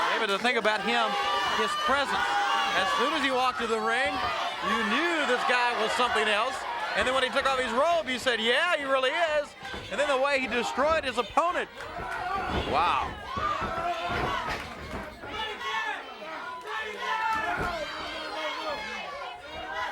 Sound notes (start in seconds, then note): 13.7 bellowing; 13.7 footsteps plodding